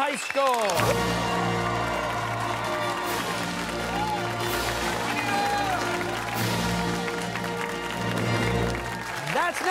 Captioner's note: cheers and applause